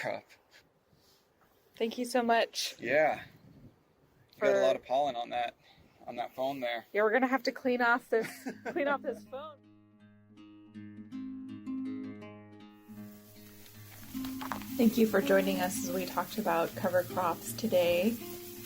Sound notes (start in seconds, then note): 11.6 calming music; 12.8 trees rustling